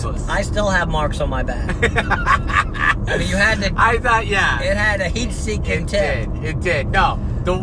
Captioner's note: laughs